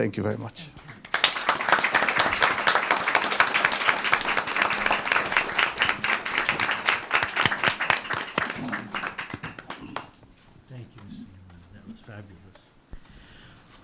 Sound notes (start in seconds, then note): 0.9 applause